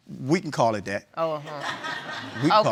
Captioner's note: audience laughs